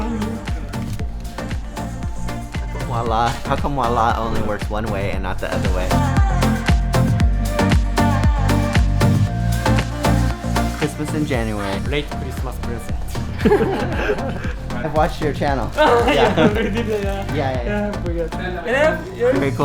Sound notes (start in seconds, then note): 6.5 upbeat music; 13.3 chuckles